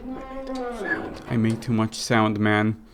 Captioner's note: door to cell creaks open; whispering ends